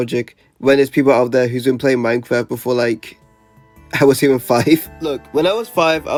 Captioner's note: laughs